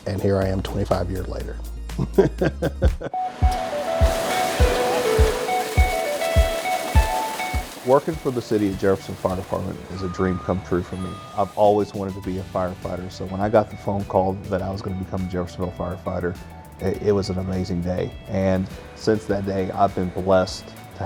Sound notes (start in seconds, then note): 2.0 laughs; 3.2 water splashing; 3.4 upbeat music